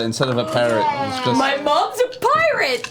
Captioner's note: gasps